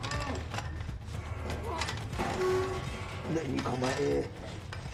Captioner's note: heavy breathing